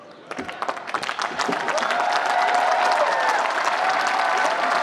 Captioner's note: applause